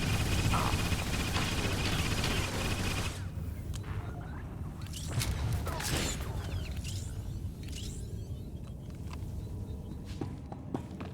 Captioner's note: gunfire